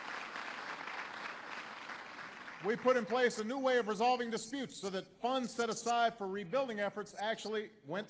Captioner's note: applause